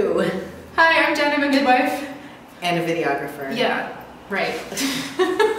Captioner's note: both laugh